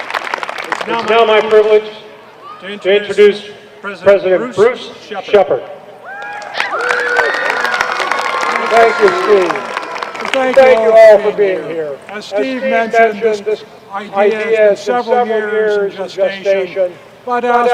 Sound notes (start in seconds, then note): 6.1 applause